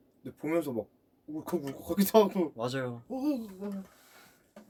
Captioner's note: random sounds- like he wants to cry